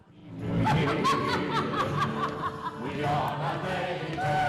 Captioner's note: cackles; cast singing